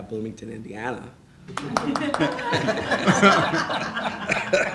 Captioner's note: laughing